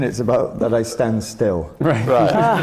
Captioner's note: laughter from the panel